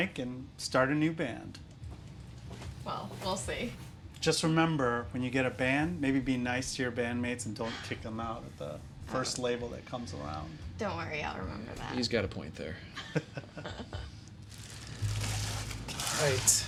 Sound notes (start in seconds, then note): 12.9 Harold chuckles; 13.0 Angelina chuckles